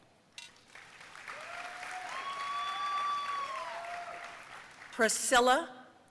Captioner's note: audience cheering and applauding